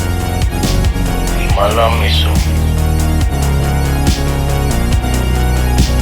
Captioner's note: speaking in foreign language